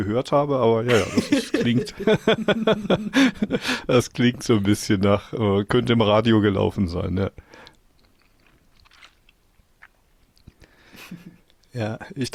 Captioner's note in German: gelächter